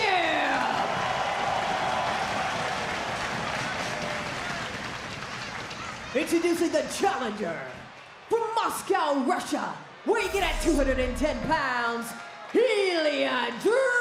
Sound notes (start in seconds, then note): 3.0 crowd cheers